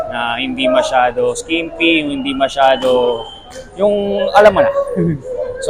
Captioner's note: chuckles